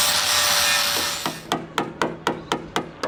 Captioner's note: grinding, tapping